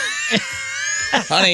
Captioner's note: laughter